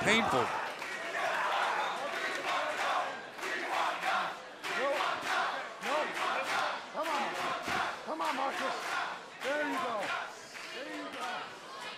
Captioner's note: crowd cheering